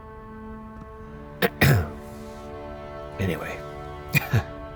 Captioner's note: clearing throat